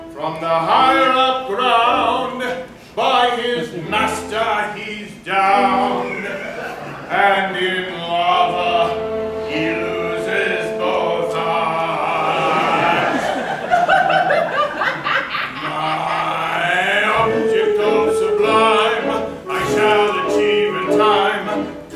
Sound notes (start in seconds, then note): 12.4 laughter; 13.0 KATISHA cackling